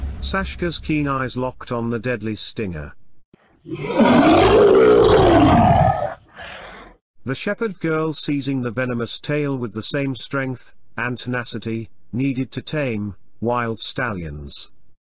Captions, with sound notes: Saska's Keen Eyes Locked On The Deadly Stinger... (Monster Roaring) The Shepherd Girl Seizing The Venomous Tail With The Same Strength And Tenacity Needed To Tame Wild Stallions